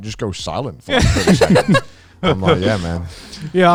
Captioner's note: laughing